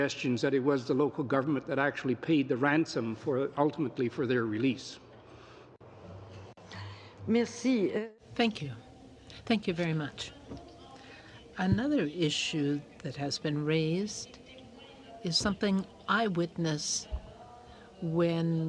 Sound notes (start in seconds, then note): 12.5 speaking in french